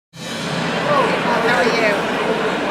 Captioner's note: audience chattering